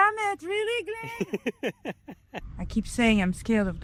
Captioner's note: laughs